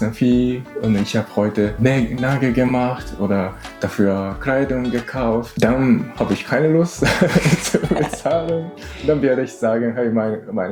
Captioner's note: laughs